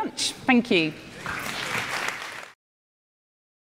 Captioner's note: applause